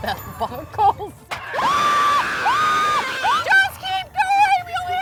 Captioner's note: screams